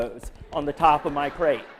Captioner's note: laughter